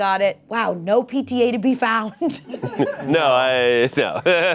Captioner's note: laughs